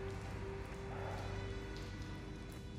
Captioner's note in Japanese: 疲労感漂うため息